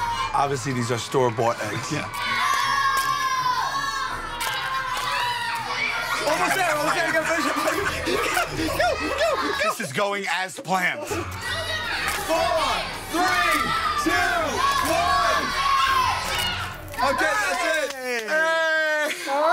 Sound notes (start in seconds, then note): 2.2 children shouting